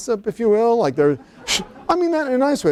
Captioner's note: laughter